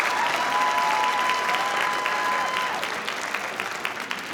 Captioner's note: audience cheering